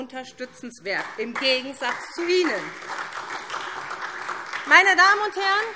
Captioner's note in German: Beifall SPD